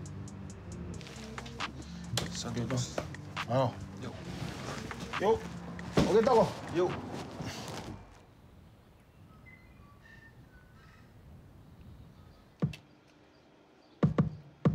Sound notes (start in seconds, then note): 4.4 speaks in foreign language; 12.2 drum music